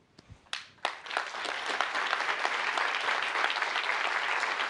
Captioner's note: applause